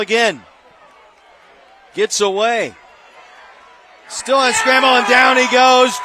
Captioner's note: applause